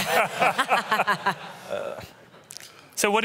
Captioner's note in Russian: смех